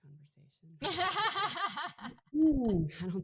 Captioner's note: laughing